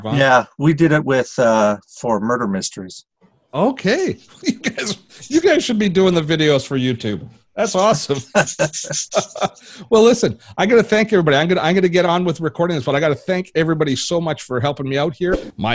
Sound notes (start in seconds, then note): 4.0 laughing; 7.8 laughing